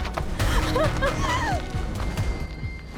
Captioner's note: gasps